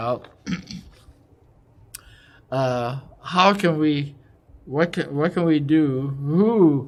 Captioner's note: cough